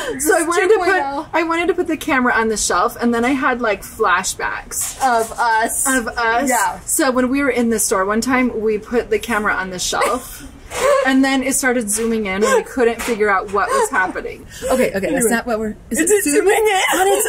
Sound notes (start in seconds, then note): 10.7 laughs